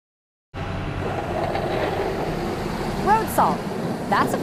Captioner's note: vehicle engines rumbling